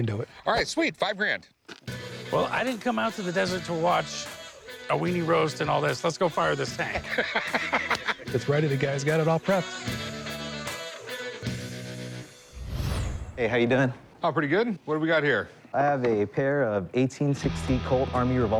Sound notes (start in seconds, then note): 6.6 laughs